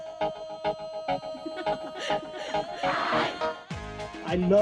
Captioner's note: laugh